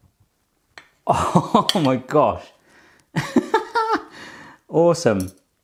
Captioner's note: laughs